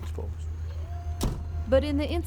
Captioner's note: mechanism whirs